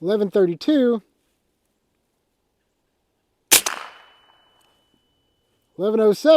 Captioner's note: gunshot